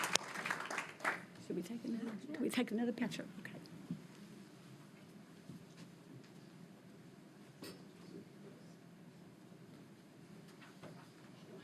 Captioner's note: applause